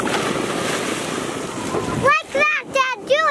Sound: water splash

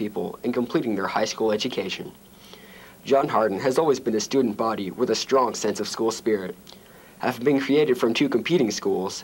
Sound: none

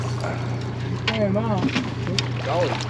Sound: reel cranking; fish splashing

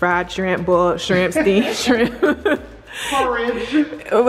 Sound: laughing

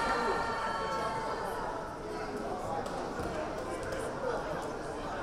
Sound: crowd cheering; crowd chattering

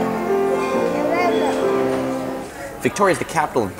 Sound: chattering

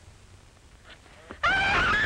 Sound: scream

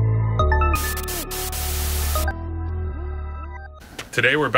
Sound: static

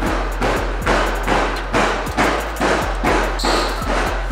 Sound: loud thumping; bird squawking

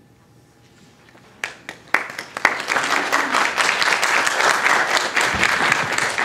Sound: applause

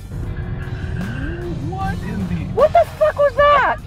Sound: car zooms by loudly

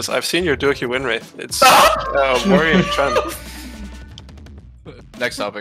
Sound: laughing

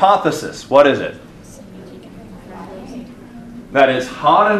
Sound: students voices chattering

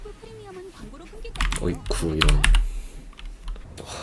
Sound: Youtube ad sound

